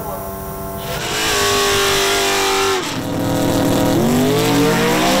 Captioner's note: tires squealing